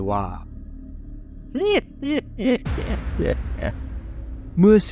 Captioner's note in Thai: หัวเราะ